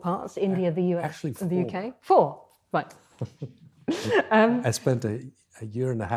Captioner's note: chuckles